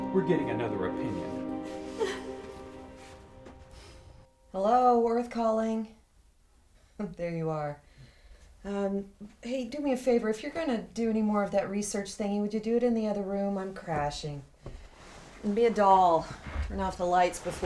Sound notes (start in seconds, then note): 1.6 Anne crying